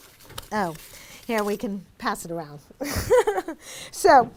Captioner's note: chuckles